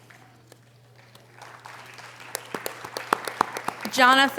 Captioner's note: audience applause